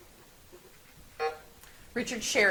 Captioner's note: buzzer buzzes